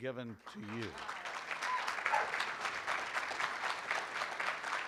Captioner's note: room applauds